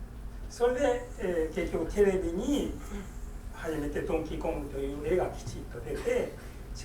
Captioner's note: speaking in foreign language